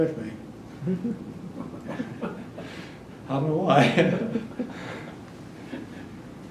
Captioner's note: laughter